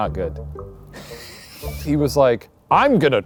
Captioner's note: laughing